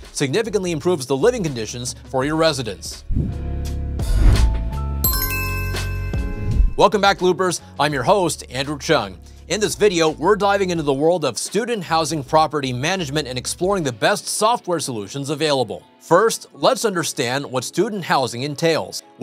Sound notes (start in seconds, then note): 5.0 chimes ringing